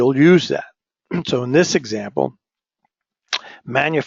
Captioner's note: cough